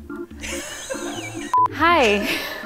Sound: laughing

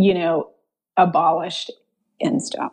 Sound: none

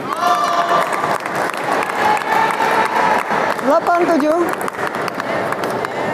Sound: applause

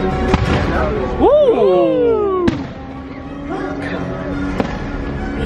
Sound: exciting music; fireworks popping; friends exclaim

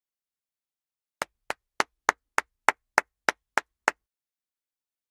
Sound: sound of clapping

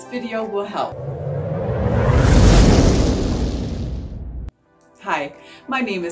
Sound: plane taking off sound

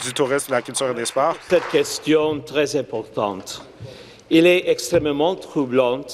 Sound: applause

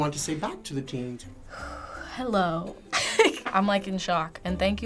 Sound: laughing

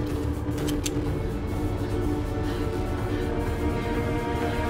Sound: breathing heavily

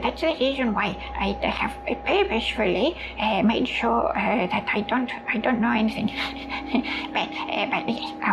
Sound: chuckles

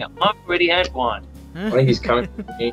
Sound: laughter

